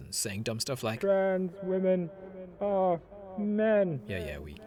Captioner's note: radio